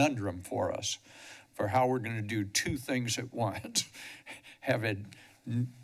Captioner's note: chuckles